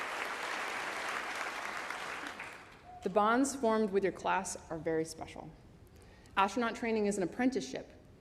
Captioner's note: applause